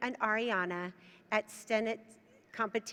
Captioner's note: none